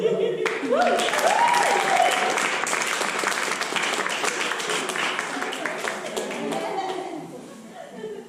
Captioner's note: applause